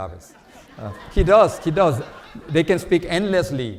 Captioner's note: audience laughs